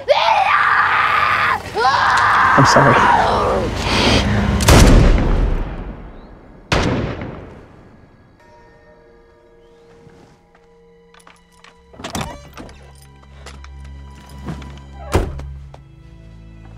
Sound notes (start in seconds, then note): 0.0 screams; 4.5 gunfire